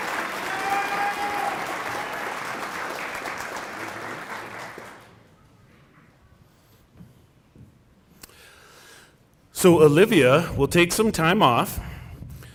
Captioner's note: cheering and applause